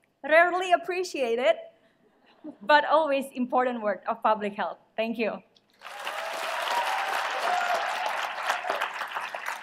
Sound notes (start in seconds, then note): 5.8 cheering